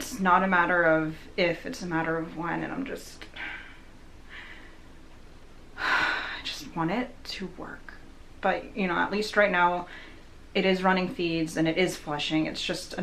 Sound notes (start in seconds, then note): 3.3 sighs